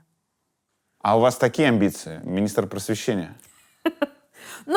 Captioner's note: laughs